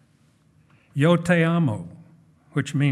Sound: speaking in foreign language

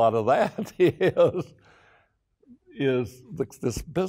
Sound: laughing

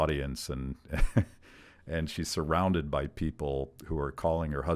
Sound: laughs

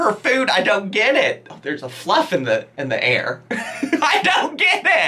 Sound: laughing

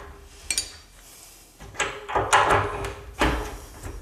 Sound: metal banging

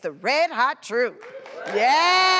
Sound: audience claps

